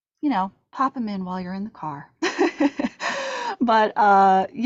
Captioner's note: chuckling